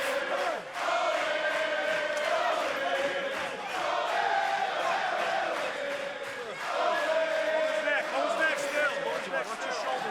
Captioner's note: crowd cheering